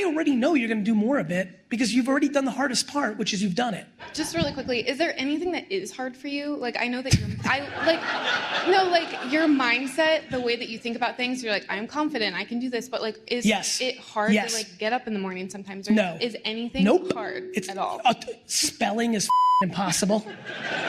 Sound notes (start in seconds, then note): 6.8 Gary laughs